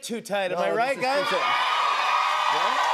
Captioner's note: cheers and applause